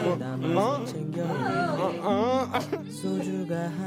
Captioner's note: grunting noises; laughs